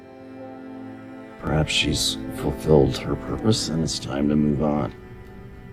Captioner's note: voiceover